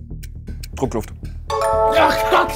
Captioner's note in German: Klingeln